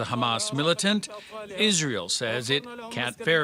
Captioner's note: foreign language